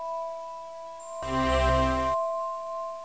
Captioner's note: triumphant ding